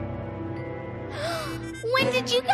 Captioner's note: gasps